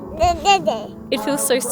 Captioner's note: babbles